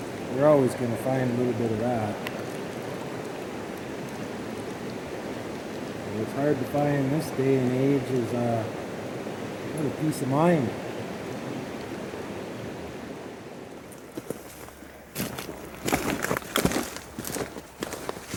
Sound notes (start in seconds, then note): 13.9 foot steps